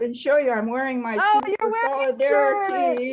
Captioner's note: claps